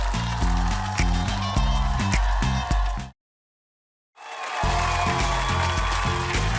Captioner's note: applause